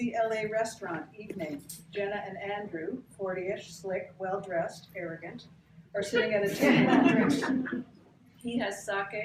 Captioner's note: laughter